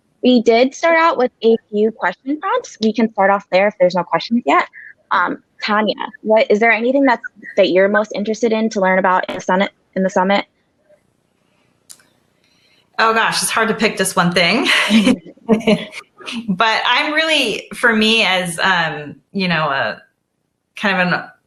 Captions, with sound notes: We did start out with a few questions. Perhaps we can part off there if there's no questions yet. Tanya, is there anything that you're most interested in to learn about in the summit? - Oh gosh, it's hard to pick just one thing (laughs) but I'm really for me as, you know, kind of,